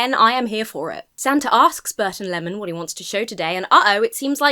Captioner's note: none